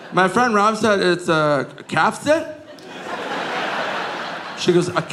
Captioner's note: audience laughing